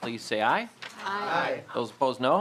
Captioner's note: chorus of ayes